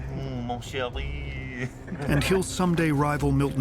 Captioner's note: men chortling